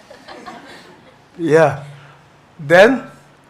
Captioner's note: audience chuckles